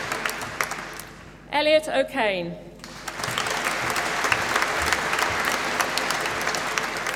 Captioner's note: applause